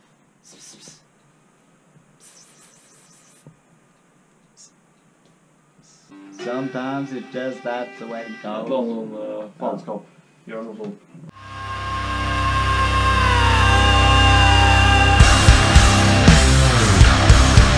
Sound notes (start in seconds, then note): 2.2 pss pss pss pss; 4.3 psh